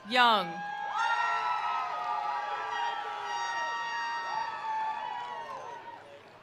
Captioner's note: attendees cheering; attendees applauding